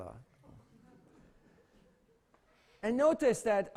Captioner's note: laughter